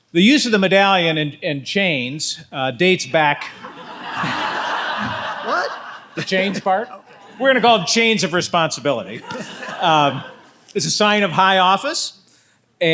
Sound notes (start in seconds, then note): 3.4 audience laughs